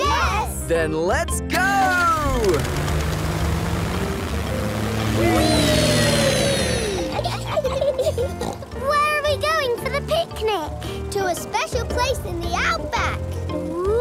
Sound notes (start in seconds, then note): 6.8 laughs and snorts